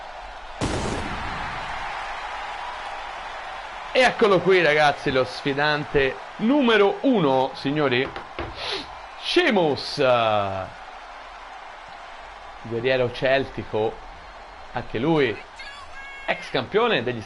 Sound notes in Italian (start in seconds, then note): 8.5 sbuffare